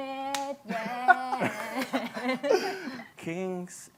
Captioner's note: singing; laughter; singing